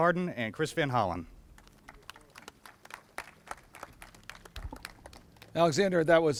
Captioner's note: applauses